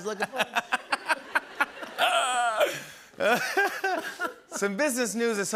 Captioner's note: laughter